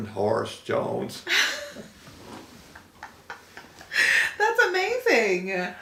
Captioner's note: laughing